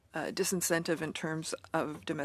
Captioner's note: speaking French